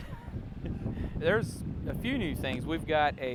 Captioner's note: laughing